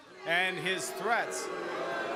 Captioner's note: audience booing